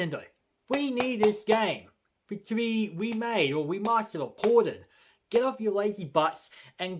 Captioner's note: tapping the cover